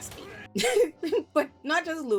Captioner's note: laughs